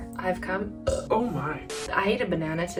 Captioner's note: burps